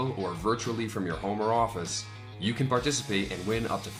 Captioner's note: none